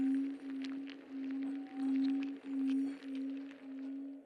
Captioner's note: insects scuttling